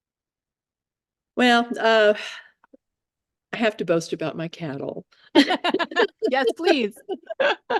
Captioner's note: laughing